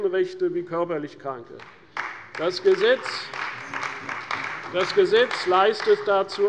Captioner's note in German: Beifall bei der CDU und dem BÜNDNIS 90/DIE GRÜNEN